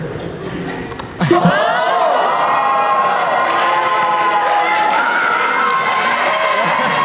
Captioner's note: group responds; scattered applause